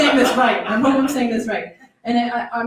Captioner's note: laughter